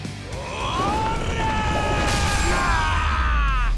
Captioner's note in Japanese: 叫び声; うめき声